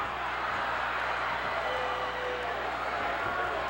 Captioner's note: boos